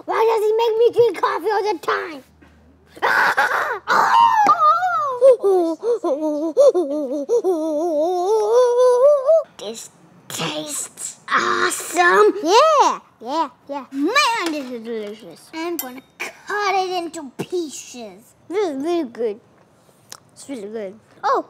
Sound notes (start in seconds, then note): 3.0 shouts